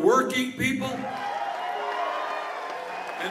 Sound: cheers and applause

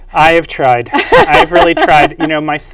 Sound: laughs

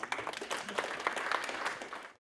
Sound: applause

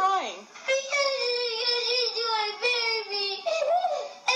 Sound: inhale

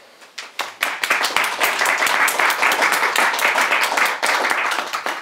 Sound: audience clapping

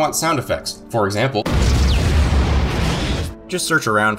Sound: boom

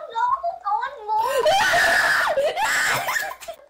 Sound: screams

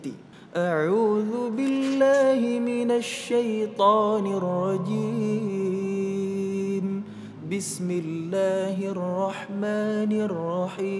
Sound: reciting quran

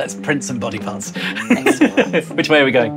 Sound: laughs

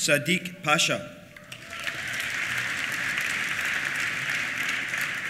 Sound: applause; cheers

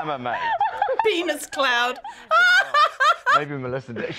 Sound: laughs loudly

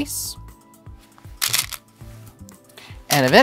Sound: stones rattling

